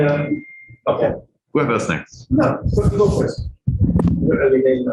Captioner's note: indistinct conversation